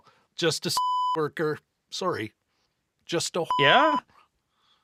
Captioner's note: beep